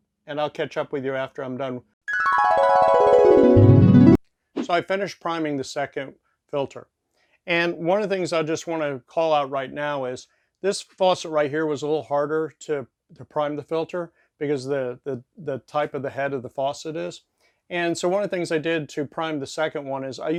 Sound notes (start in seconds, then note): 2.1 magical twinkling